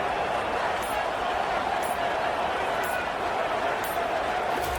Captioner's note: crowd Noises